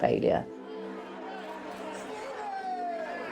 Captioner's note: crowd cheers